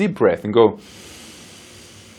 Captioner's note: inhales deeply